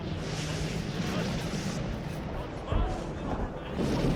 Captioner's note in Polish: ludzie histerycznie tyrkoczōm